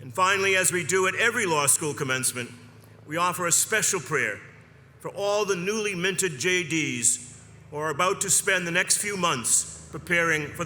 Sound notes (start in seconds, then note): none